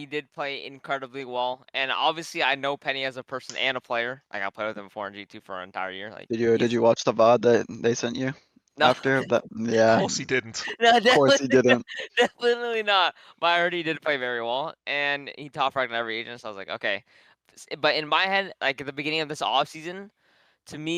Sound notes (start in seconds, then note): 8.8 laughs